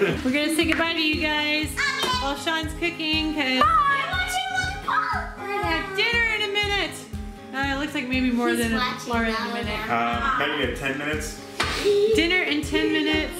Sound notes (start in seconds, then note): 0.0 laughs; 3.6 yelling